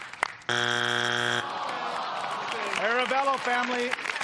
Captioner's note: buzzer sounds